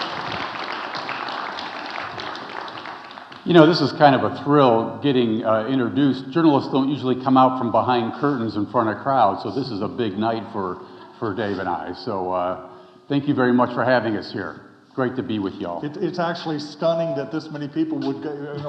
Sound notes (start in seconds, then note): 10.7 audience chuckling